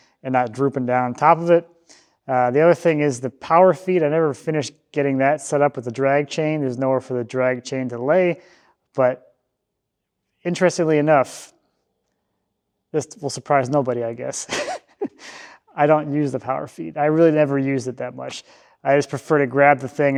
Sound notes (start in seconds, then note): 14.4 laughs